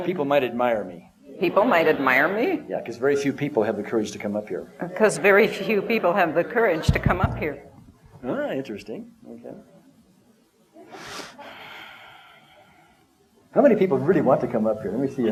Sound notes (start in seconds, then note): 10.9 breathes deeply